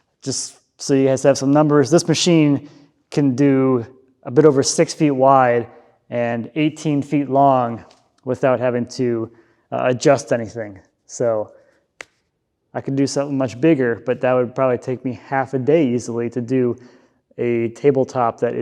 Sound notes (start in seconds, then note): none